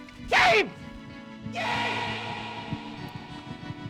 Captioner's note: echoes